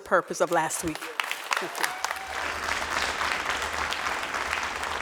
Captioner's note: crowd applauding